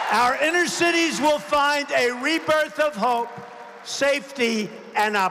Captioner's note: applause